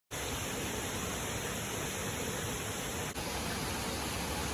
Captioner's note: water flowing inside the sluice